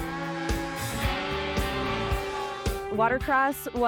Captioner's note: snowmobiles revving